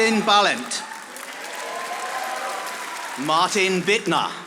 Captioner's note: audience applauding